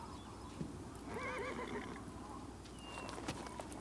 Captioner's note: horse neighs